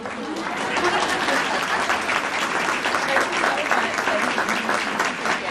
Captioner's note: audience applauding